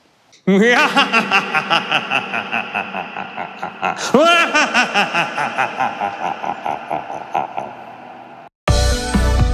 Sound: maniical laughter

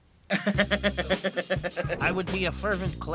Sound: laughing

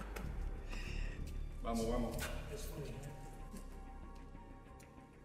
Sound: speaking foreign language

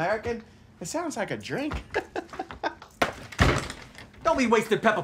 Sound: laughs

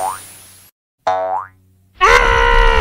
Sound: boing

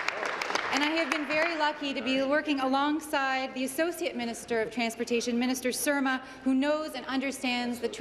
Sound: applause

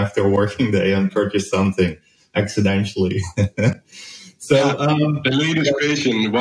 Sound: chuckles

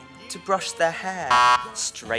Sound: incorrect sound

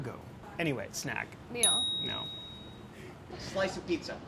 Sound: buzzer pinging

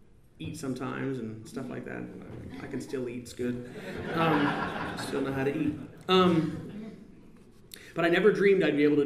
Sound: laughter

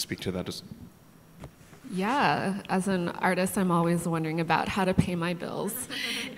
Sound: audience laughter

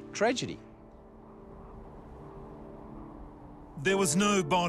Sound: wind whistles

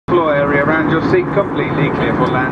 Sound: plane tannoy

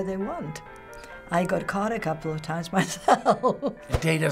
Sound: chuckles

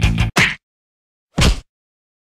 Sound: slap

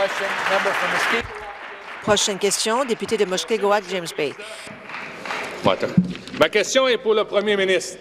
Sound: applause

